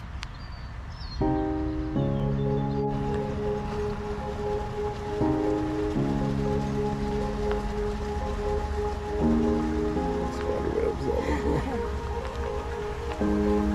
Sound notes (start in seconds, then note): 0.0 soft music; 0.0 wind blowing; 11.2 laughter